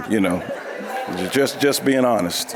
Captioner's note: audience laughing